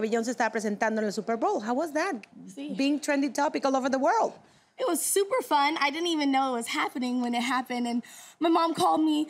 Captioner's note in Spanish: Hablan en inglés